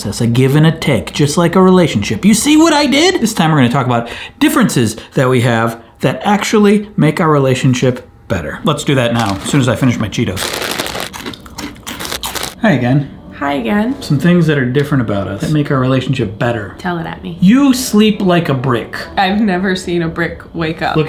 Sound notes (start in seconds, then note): 10.3 bag crinkling; 10.3 crunching